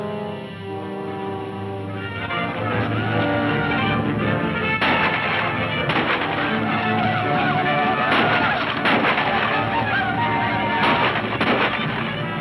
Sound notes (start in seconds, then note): 2.4 men shouting; 5.7 guns firing; 8.0 men shouting